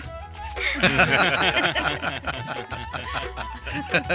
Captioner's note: laughing